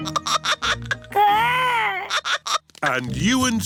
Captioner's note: giggling